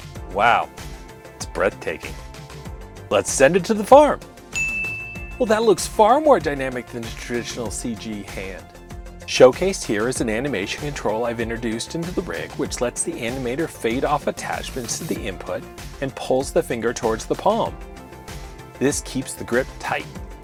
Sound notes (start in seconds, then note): 4.5 ding!